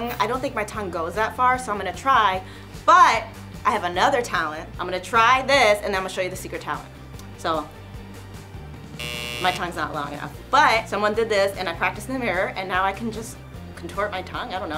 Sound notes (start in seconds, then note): 9.0 buzzer sounds